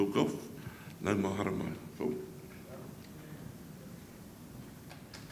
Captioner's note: speaking foreign language